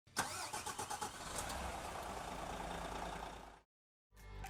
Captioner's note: car engine starts